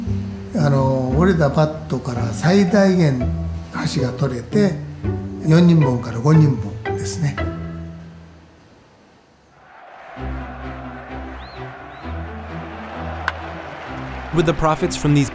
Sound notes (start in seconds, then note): 10.3 pleasant orchestral music; 13.2 bat cracking